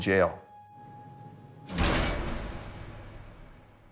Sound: door slams

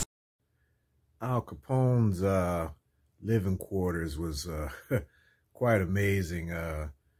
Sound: chuckle

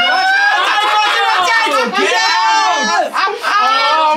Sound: actors laughing

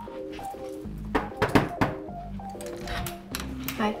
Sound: knocking

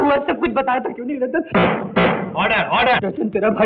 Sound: gavel tapping

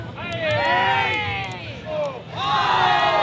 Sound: crowd

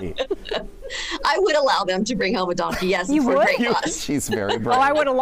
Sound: laughter

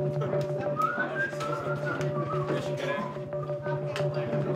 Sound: whistling

